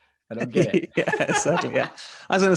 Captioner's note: laughing